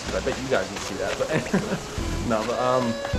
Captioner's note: laughs